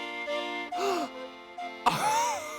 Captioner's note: gasps; laughs